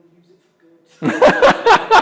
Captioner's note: laughing